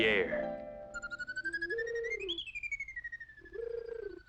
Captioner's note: dove cooing